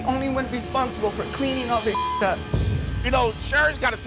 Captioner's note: beep